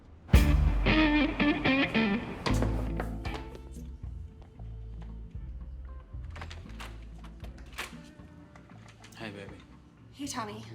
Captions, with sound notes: [smooth jazz music] [knocking on door] -Hey, baby. -Hey, Tommy.